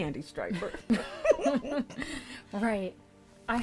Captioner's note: both laughs